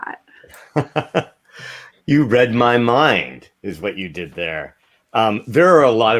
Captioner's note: laughs